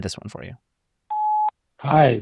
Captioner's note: telephone beeps